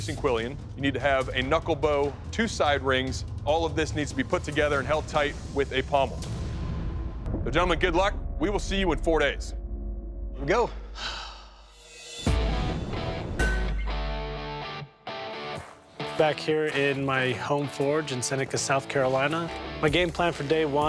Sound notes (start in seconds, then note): 10.7 sighs; 12.2 lively rock music